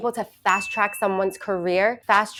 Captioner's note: bell ringing